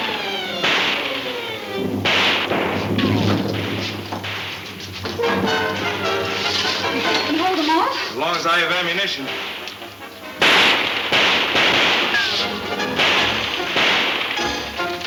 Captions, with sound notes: - Can you hold them off? - Long as I have ammunition. (guns shooting)